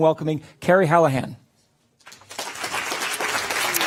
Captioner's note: applause